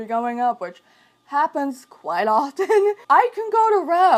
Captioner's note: chuckles